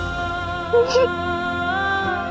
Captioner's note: sobbing